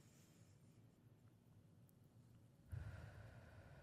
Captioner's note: breathing